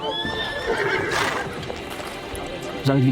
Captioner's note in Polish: rżenie konia